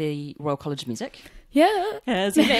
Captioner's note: hesitantly